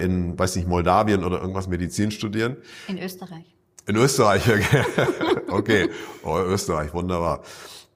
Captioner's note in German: gelächter